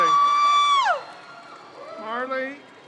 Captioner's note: crowd cheers